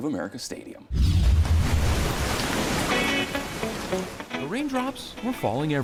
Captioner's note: rain splattering; upbeat music